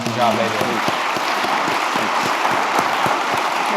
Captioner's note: applause